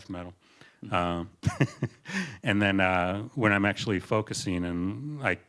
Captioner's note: laughter